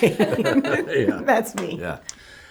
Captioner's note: laughing